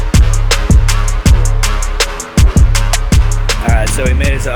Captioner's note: crickets chirping